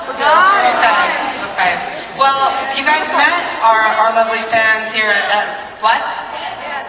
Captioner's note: audience responds